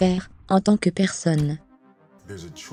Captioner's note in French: rebond de basket-ball